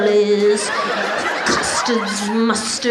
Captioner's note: audience laughs